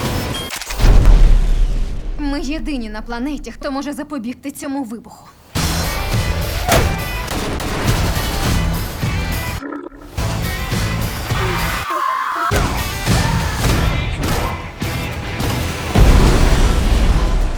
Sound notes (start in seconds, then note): 0.0 dramatic music playing; 7.2 gunshots; 9.5 camel grunts; 11.2 grunts, screams; 11.2 screaming; 14.3 man groans